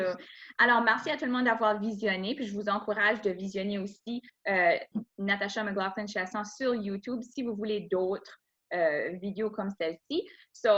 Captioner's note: speaking in French